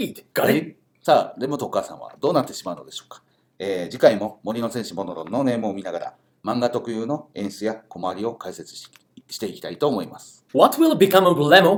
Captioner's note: speaking Japanese